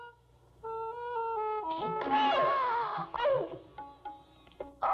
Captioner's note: groans